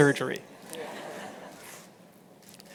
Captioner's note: laughter